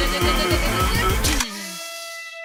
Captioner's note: Firey, Loser and Flower all drumrolling; clicking sound effect